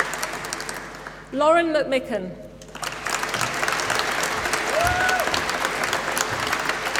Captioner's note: applause